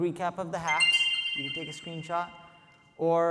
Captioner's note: screen chiming